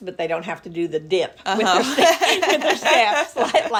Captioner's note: laughing